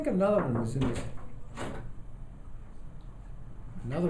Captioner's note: door opening